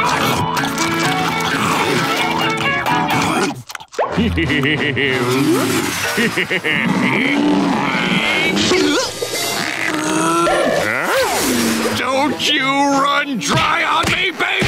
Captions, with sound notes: [scarfing] [laughing] [grunting] Huh? Don't you run dry on me baby!